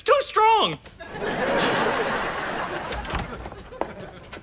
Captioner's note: audience laughter